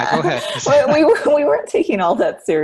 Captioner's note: laughing